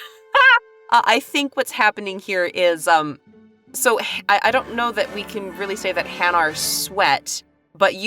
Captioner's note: chuckles